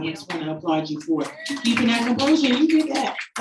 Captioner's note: audience applauding